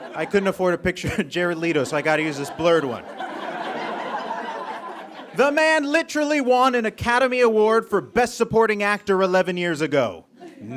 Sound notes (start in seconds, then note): 3.2 audience laughs